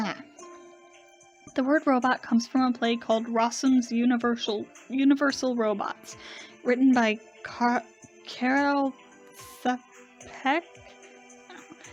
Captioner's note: struggling with pronunciation